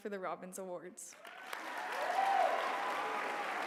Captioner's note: applause